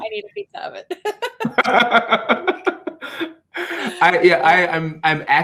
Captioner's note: laughs